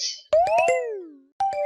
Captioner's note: failure ding; question ding